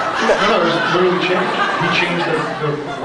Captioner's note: scattered laughs